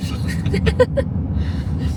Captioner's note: laughing